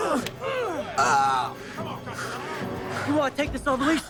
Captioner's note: Henderson groans